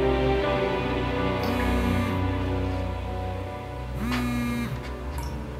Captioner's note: cellphone buzzing